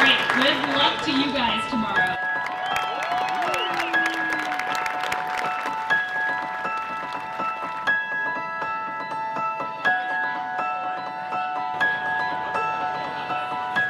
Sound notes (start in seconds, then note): 2.9 applause and cheering; 4.9 cheerful music